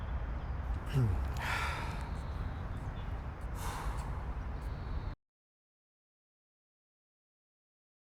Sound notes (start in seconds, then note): 0.8 sighs